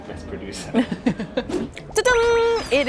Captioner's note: laughing